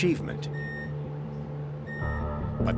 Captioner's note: device beeping